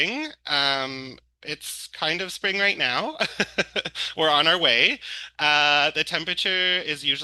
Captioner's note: laughs